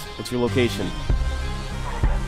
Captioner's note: on the Radio